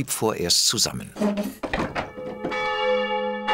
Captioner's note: bell rings